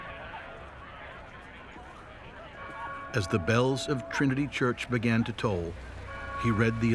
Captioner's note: bells tolling